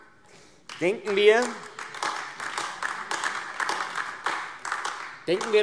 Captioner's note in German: Beifall AfD